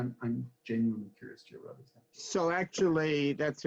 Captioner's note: faintly speaking